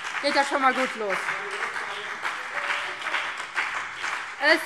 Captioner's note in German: Beifall BÜNDNIS 90/DIE GRÜNEN und vereinzelt CDU